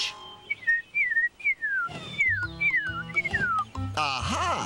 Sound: bird Singing

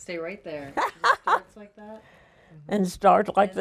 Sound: laughs

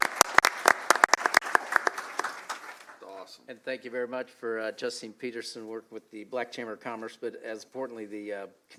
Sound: applause

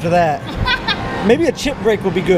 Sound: laughs

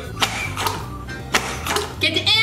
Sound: blowing

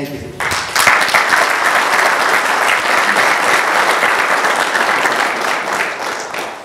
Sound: applause

